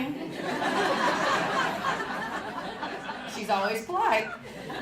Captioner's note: audience laughing